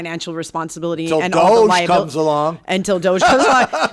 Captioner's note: laughs